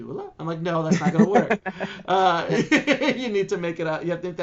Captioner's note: laughing